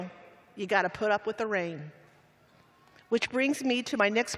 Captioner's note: none